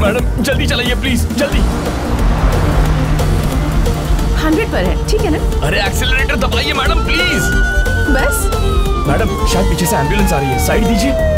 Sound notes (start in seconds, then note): 1.0 car engine revving; 7.7 siren vailing